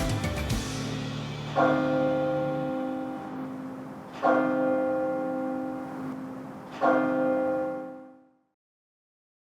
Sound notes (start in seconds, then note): 1.4 bell dongs